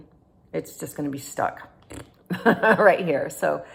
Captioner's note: laughing